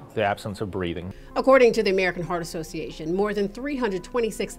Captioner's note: voiceover